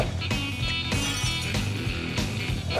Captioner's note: glass breaks